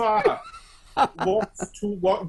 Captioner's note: laughs loudly